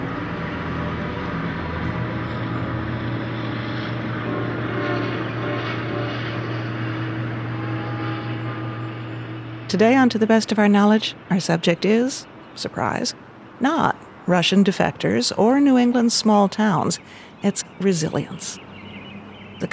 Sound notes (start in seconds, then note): 0.2 plane engine revving; 4.8 horn honking; 8.1 church bell ringing